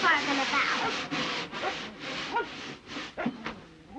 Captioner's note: jack barking